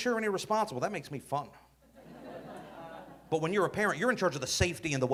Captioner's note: audience laughing